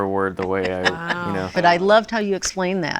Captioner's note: laughs